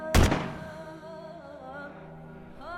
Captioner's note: gunshot